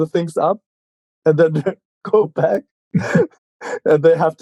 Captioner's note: laughing